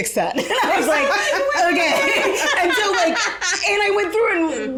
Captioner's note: all laugh